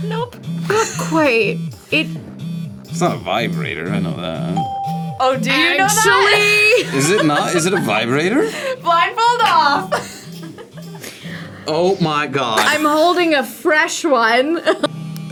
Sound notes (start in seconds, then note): 4.5 bell rings; 10.9 laughs; 14.4 laughs